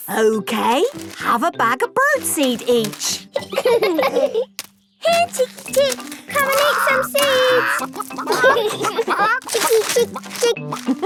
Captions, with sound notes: - Okay... Have a bag of bird seed each! - (laughing) - Here, chicky chick! - Come and eat some seed! - Hee, hee! Chicky, chick, chick!